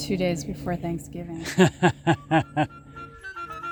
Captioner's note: laughing